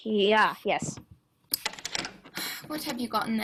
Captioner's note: key in lock